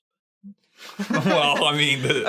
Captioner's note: laughing